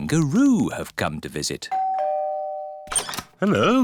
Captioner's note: doorbell rings